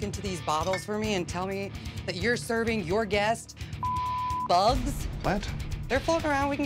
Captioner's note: beep